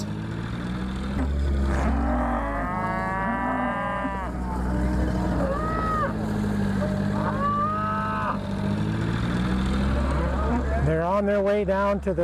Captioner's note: cattle sounds